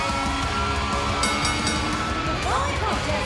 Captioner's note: bell ringing